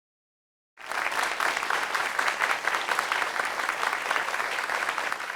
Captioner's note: audience applauding